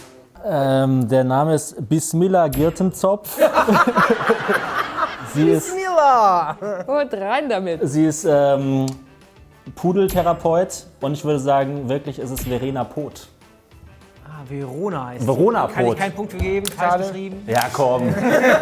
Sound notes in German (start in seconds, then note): 3.2 Gelächter